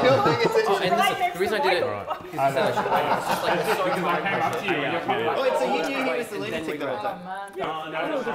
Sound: general hubbub and merry-making

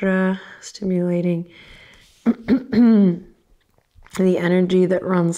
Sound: clears throat

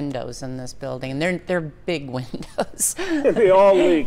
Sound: laughs

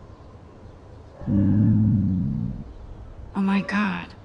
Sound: Max's stomach growling

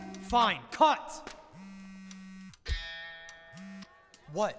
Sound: phone rings

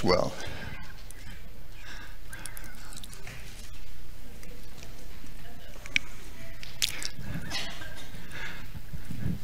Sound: audience laughing

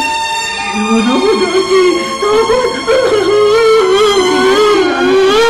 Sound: wailing

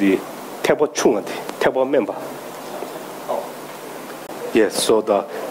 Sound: speaking in foreign language

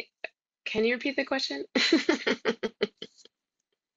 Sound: laughs

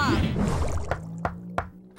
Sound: knocking

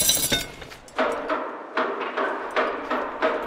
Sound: banging

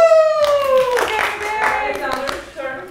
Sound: clapping

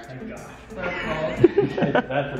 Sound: laughter

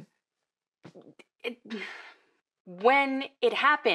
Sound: she stammers; she sighs

